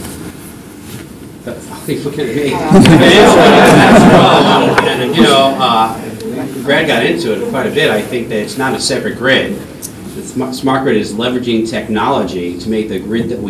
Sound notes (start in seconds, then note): 6.0 laughter